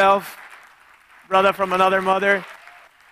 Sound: audience clapping

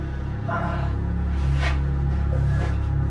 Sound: groans

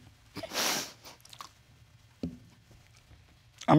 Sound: sniffles

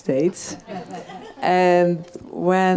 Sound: audience laughs

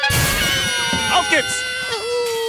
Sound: all cheering; speaking German

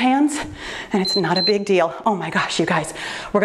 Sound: timer beeps

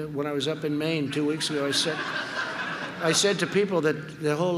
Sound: laughter

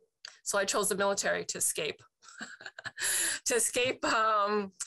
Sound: chuckles

